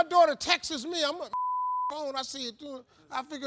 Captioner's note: beep